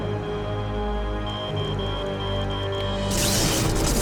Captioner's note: beeping